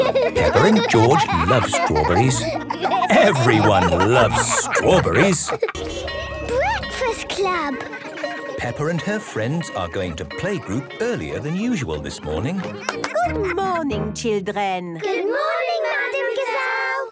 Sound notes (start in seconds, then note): 0.2 laughing; 5.6 bell ringing; 7.6 children giggling; 12.8 claps